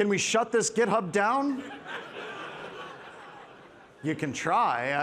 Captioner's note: participants laughing